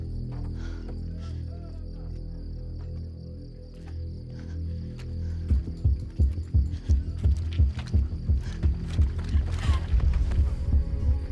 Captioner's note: breathing heavily